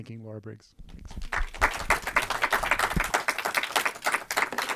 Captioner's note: audience applauding